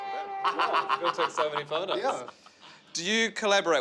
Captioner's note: laughing